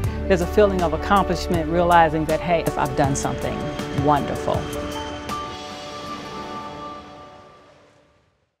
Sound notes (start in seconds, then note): 4.7 airplane engine revving; 4.7 gentle bright music